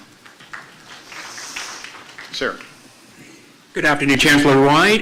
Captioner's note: applause